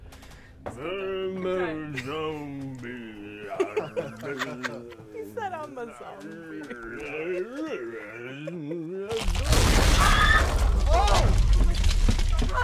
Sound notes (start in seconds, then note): 0.7 groaning; 3.4 more laughter; 7.4 laughs; 8.8 terror screams; 9.2 loud crash/boom